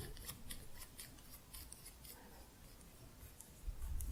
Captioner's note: scissors sounds